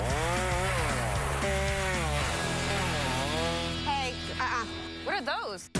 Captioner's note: chain saw buzzing